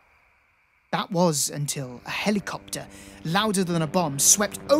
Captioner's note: helicopter passes loudly